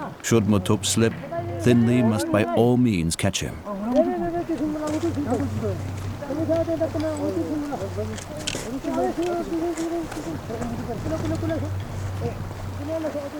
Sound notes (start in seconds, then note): 4.0 speaking foreign language